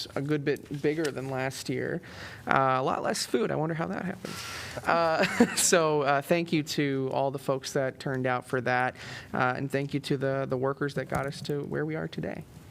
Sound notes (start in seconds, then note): 5.2 laughter